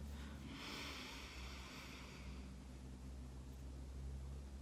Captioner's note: inhaling